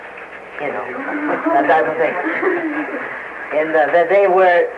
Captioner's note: laughter